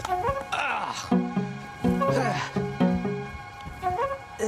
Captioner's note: groans